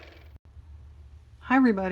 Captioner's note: car motor